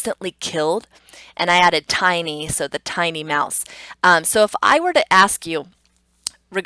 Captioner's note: tongue clicks